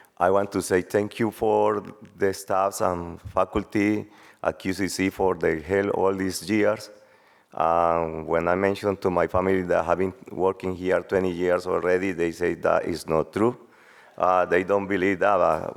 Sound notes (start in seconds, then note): none